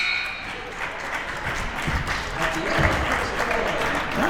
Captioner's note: crowd applauds